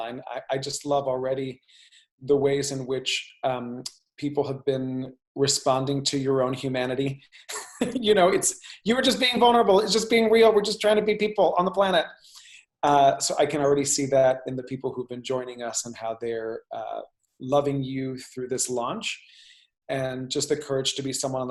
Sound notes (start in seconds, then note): 7.6 laughs